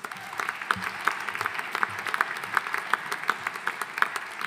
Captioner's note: audience applauding